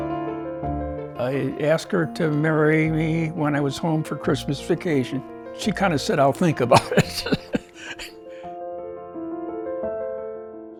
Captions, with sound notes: - I asked her to marry me when I was home for Christmas vacation. She kind of said, "I'll think about it." (laughs) (calming music)